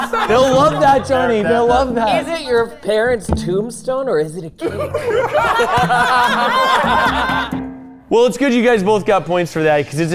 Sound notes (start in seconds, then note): 4.6 all laughing